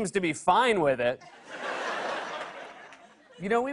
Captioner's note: laughter